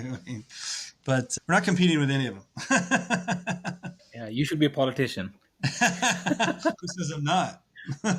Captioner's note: laughs